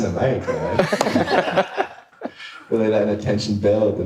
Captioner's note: audience laughing